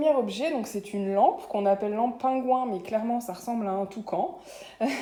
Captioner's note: laughter